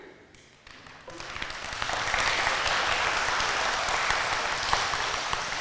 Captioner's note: audience applauding